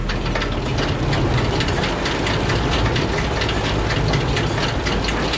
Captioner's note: chains clicking